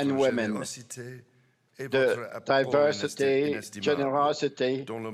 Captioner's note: speaking French